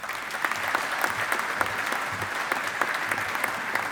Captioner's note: audience applauding